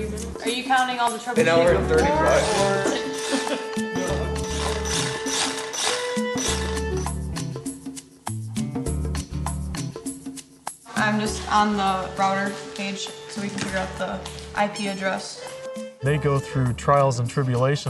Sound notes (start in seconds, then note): 2.7 engine whirs